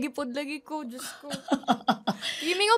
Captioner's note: laughs